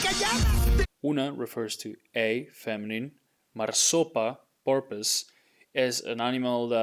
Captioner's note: speaking in Spanish; speaking in Spanish